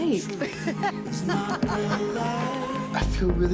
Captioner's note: laughs